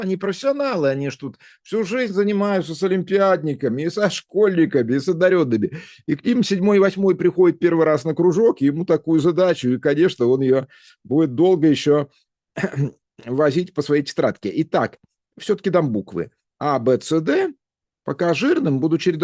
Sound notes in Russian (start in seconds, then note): 12.6 откашливается